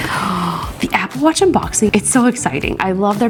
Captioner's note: gasps